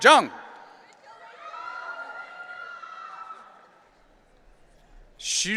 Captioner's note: audience cheering